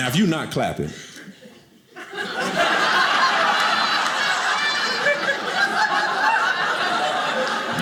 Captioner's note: audience laughing